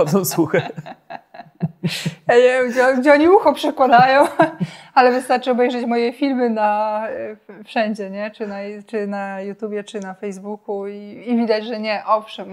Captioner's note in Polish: śmiech